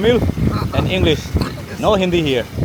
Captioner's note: coughing